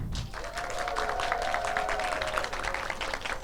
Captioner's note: audience applauds and cheers